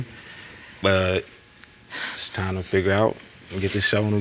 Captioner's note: sighs